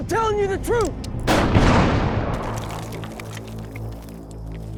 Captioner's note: gunshot, small explosion